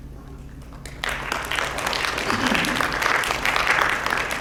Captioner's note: audience claps